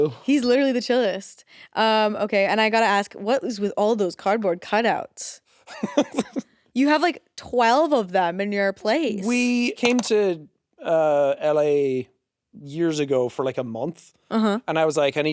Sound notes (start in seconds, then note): 5.8 Jacksepticeye chuckling